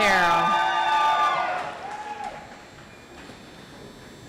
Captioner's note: audience applauds